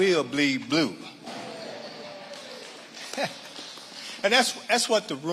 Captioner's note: audience laughing and applauding